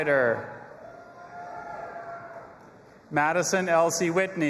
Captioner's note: audience applauding and cheering